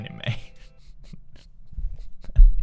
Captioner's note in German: kichert; lacht weiter